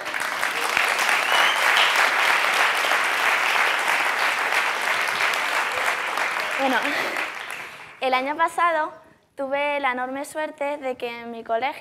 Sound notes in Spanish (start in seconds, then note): 4.4 Aplausos